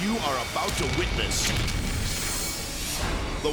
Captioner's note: water splashing; jet exploding; edgy dramatic music; fire exploding